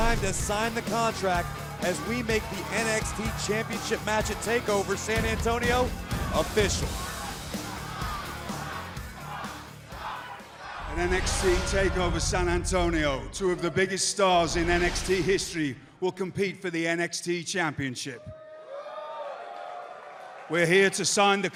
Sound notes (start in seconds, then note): 6.0 crowd cheering; 18.2 crowd cheering